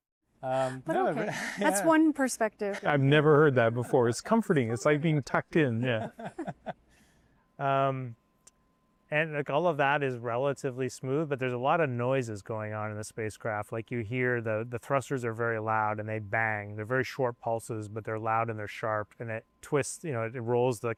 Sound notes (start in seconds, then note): 0.6 laughter